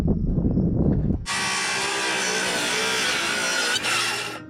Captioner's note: saw buzzing